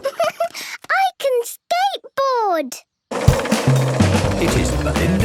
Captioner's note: giggles